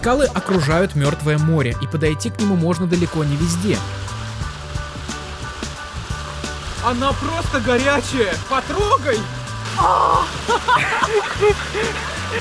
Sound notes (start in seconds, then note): 9.6 laugh